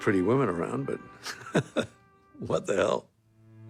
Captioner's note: laughing